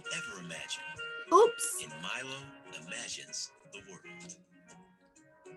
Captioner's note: voiceover